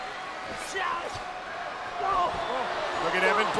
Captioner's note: wrestler vocalizing